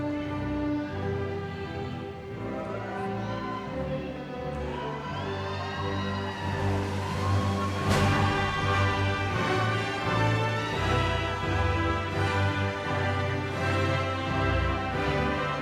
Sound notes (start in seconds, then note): 5.1 audience cheering; 8.2 orchestra music continues